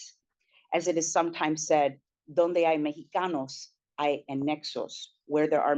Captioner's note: speaking spanish